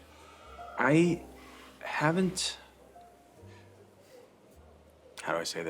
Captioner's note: none